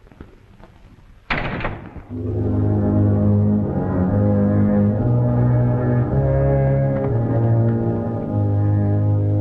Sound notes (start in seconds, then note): 1.3 door closes; 2.1 sinister music